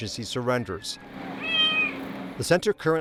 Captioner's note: cat meows